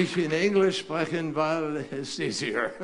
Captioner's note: applause